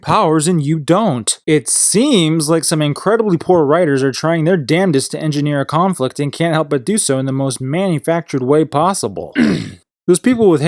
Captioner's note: coughs